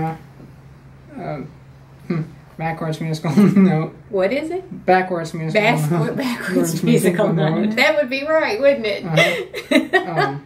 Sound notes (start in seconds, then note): 7.7 chuckles; 9.1 laughter